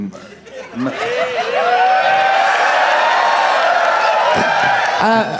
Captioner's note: crowd applauding